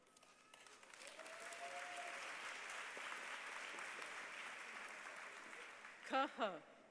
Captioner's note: applause